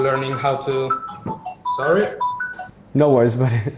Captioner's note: telephone ringing